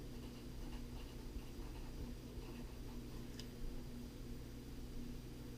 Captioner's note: pen writing on paper